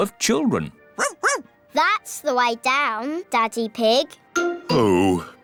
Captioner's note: barks